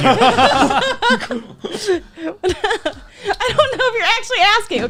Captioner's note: laughing